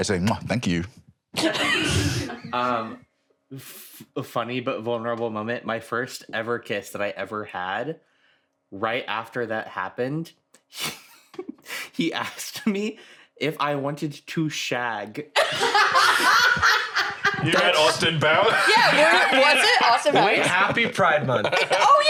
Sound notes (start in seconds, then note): 1.4 laugh; 10.7 laughs; 15.4 laugh